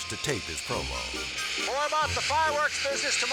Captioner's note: fireworks hissing